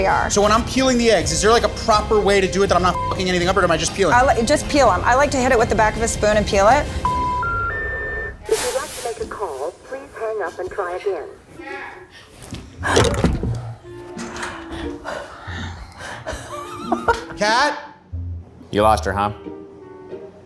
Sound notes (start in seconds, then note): 7.0 dial tone beeping; 13.6 playful music; 16.0 laughs